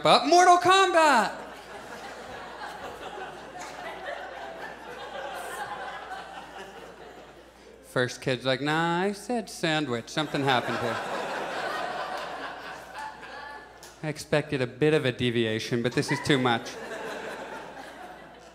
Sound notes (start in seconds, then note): 2.8 audience laughs; 15.8 audience laughs